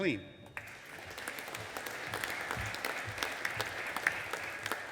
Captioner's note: audience applauding